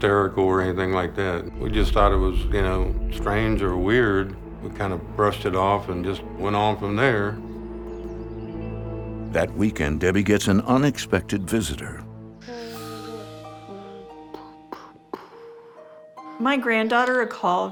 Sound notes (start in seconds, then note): 12.1 boy imitates battle sounds